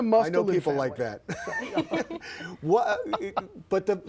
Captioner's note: laughter